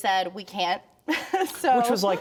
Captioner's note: laughter